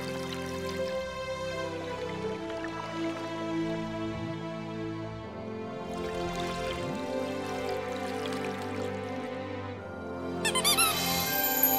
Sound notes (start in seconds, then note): 10.0 squeaking